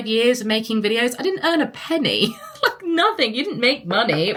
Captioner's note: laughs